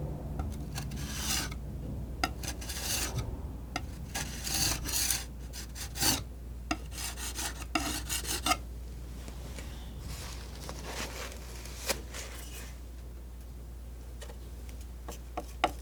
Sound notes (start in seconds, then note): 1.8 scratching